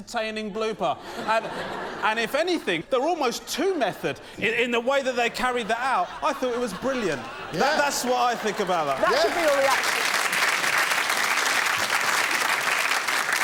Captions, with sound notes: So, I had to Blair Witch it. If you go to Blair Witch Project and go, "of, this ain't very... shot very well." It's meant to look like that. "I couldn't give my best camera moves, I had to Blair Witch it." [laughter] So, you think the cake is the blooper,